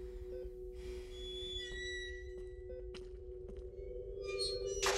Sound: gate creaking

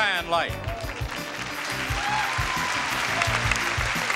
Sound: audience applauds

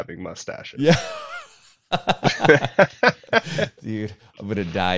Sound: both laughing

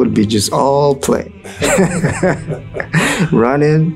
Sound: interviewer laughing

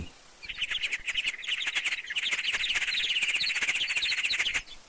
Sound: mice chirping

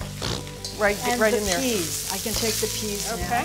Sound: makes derision sound

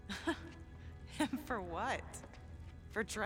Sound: laugh; laughing

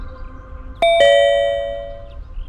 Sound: calling bell

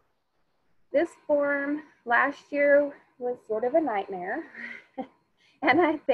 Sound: chuckles

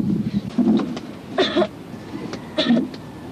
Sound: coughing continues

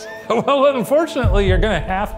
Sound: laughing

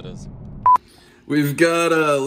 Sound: beep

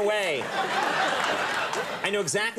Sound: audience laughing

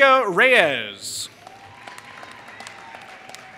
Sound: applause

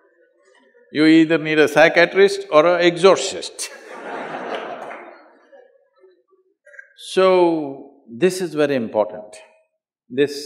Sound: laughter; laughter

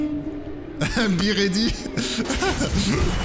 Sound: laughs

